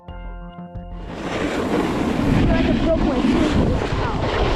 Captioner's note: wind howls